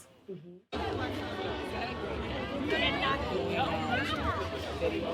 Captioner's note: people talking in background